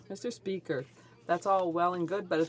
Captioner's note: speaking French